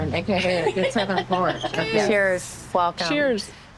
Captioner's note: laughing